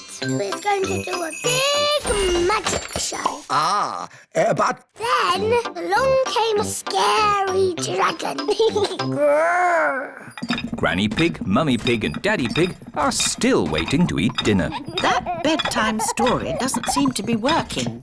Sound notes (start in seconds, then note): 8.5 giggles, growls